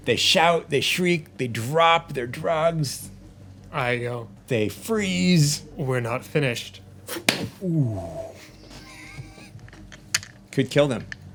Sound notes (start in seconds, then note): 7.1 smacking; 7.1 laughing